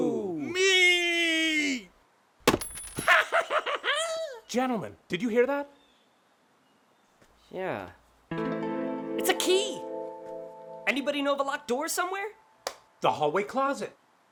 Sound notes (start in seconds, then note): 2.5 metal rings; 8.3 curious piano plays